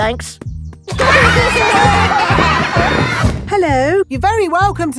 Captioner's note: laughter